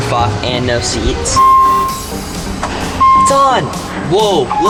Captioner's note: car dings